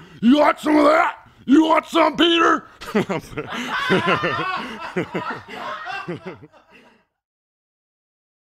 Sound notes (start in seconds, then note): 2.8 laughter